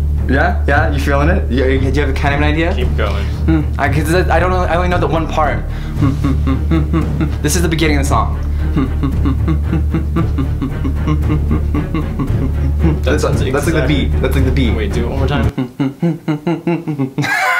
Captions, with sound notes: You got it? You feeling it? Do you have kind of an idea? Keep going. I only know that one part (more humming) This is the beginning of the song (even more humming) That's like the beat. That's like the beat. Wait do it one more time.